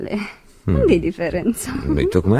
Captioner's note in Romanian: voce dreasă